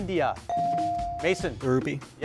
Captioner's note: bell dings